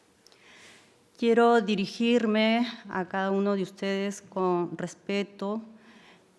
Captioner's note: speaking in foreign language